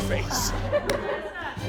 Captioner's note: audience laughs